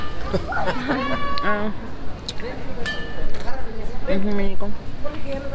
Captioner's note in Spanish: voces; risas